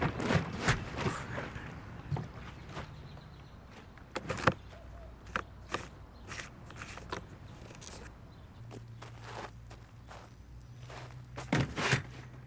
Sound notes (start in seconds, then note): 4.6 cap rattles; 8.4 shuffling footsteps